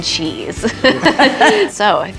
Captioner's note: laughing